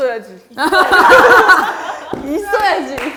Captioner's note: firm tone makes others crack up